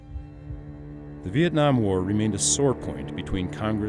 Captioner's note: voiceover